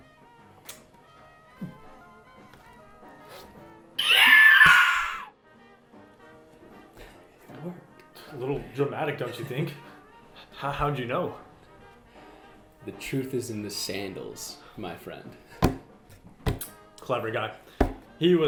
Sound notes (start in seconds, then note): 4.0 the clone screams